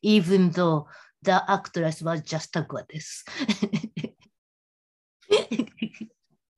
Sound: laughing

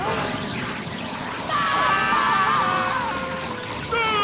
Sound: screaming

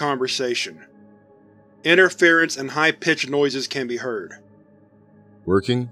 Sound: interference and high pitch noises can be heard

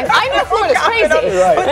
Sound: laughing

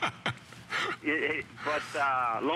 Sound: laughter

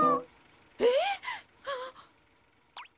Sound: Mrs. Bear Gasps

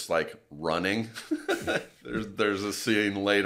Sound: laughs quietly

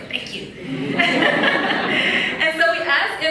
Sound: laughs

